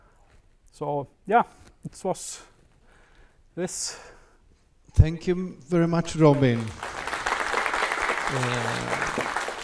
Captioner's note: applause